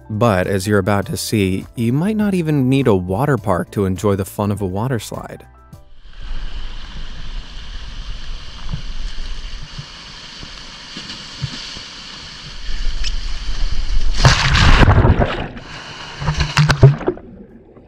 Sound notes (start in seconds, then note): 11.4 water splashes